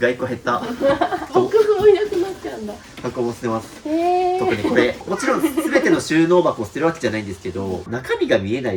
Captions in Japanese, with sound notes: 1個減った。 ボックスもいなくなっちゃうんだ。 箱も捨てます。 へえ。 特にこれもちろん全ての収納箱を捨てるわけじゃないんですけど中身が見えない収納なんですっきりはします。 [笑い]